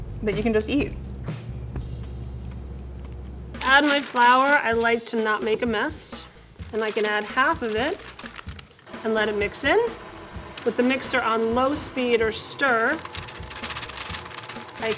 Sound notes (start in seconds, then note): 2.2 munches; 13.6 mixer whirs; 13.6 paper crinkles